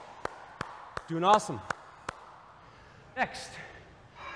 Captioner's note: claps